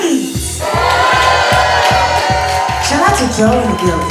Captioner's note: cheering